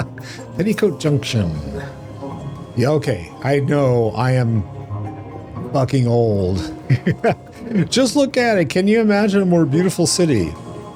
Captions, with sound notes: [laughs] Petticoat junction. Okay, I know, I am fucking old. [laughs] "Just look at it, can you imagine a more beautiful city?"